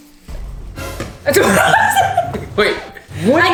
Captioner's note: dramatic music; laughing